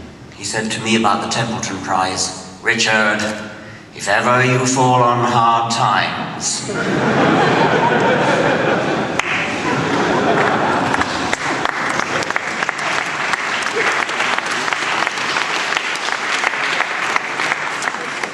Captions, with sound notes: he said about the Tempelton price: Richard! if ever you fall on hard times... [laughter] [applause]